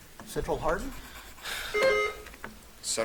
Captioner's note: buzzer dings